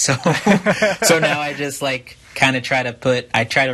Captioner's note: laughs